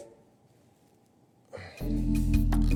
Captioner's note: sigh